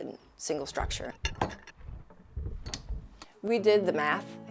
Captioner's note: tool clattering